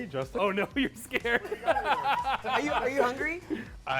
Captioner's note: all laughing